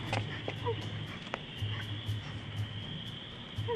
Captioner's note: girl sobbing